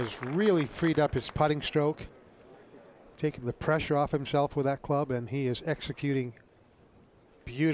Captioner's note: applause